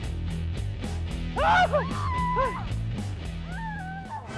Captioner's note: shouting